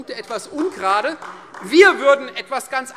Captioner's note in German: Beifall Freie Demokraten